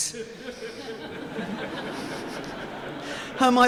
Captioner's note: audience laughing